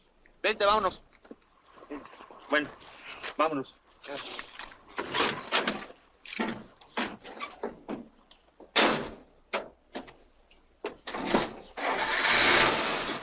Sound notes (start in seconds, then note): 0.2 officer speaks Spanish; 3.7 driver speaks Spanish; 8.7 truck door slams; 11.7 engine starts